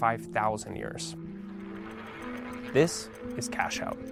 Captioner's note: roulette wheel spinning